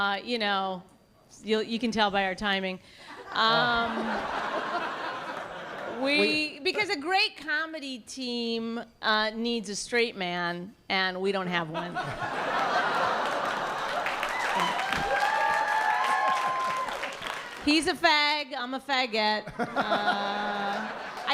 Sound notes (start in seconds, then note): 3.1 laughter; 11.8 laughter; 13.2 applause; 19.4 laughter